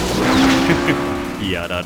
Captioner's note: laughs as a pro